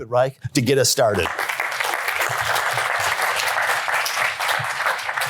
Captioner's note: applause